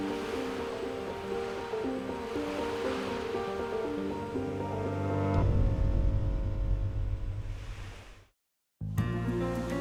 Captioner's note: waves crashing; airy bright music